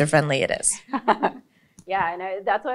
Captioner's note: laughing